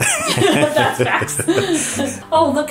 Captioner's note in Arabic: يضحك الوالدان